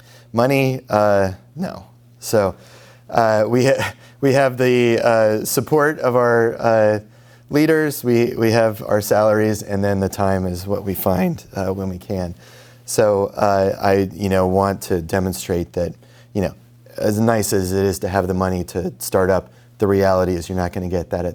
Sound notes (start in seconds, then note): 3.7 laughs